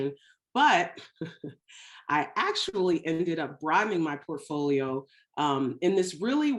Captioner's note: chuckles